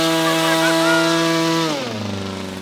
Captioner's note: laughing